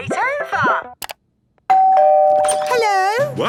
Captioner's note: doorbell ringing